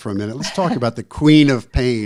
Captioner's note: laughs